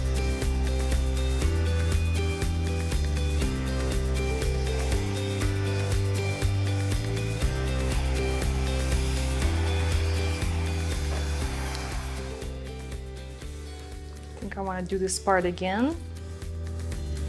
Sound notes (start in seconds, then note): 5.0 blow-dryer whirring; 5.0 upbeat music continues